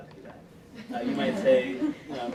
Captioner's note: laughter